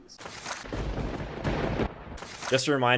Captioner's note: thunder crackling